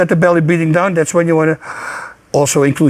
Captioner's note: deeply inhales